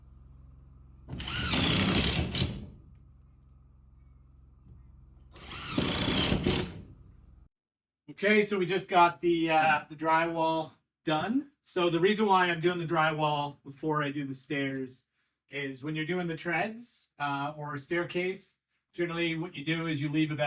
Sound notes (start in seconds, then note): 5.2 door creaks